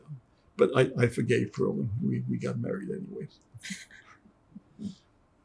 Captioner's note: laughing